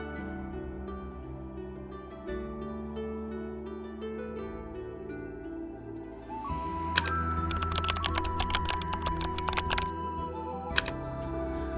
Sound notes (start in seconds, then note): 7.4 keyboard Clicking